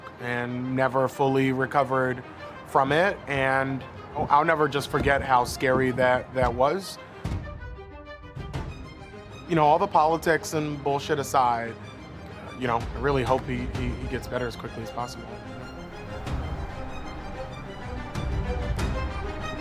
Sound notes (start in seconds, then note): 7.0 door thuds; 15.7 upbeat suspenseful music